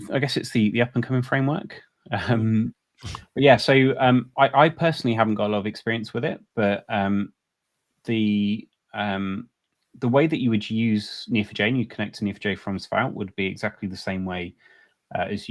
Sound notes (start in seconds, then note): 2.4 both chuckles